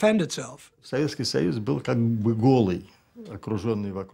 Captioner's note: speaking Russian